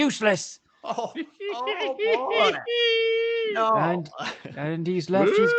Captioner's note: Giggling noises from C.C. and Shirley